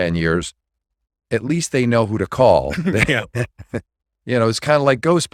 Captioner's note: laughing